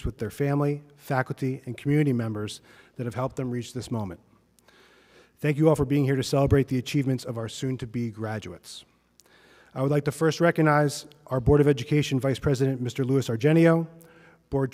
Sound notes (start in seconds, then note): none